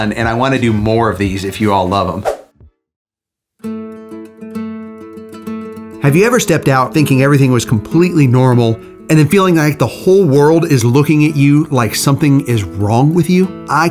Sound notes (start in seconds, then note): 2.2 screen swooshes; 3.9 pensive music plays